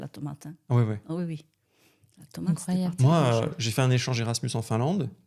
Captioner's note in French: grognement